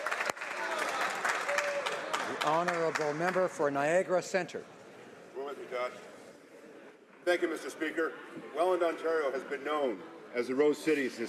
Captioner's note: applause